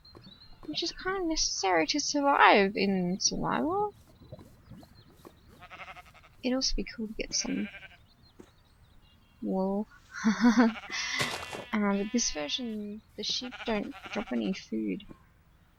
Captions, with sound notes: Which is kinda necessary to survive in survival. It would also be cool to get some... [baaa] ... wool. [laughs] Umm in this version the sheep don't drop any food.